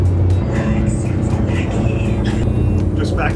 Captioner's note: boat whirs